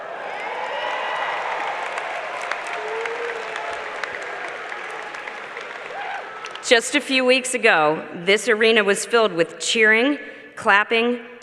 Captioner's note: cheers and applause